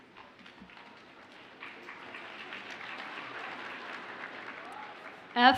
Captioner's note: audience applauds